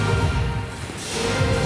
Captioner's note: splash